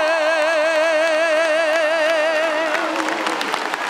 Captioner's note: cheering; applause